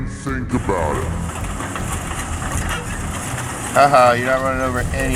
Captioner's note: metal rattles